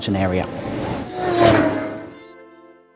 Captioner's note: vroom!